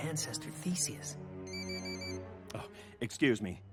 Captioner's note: phone ringing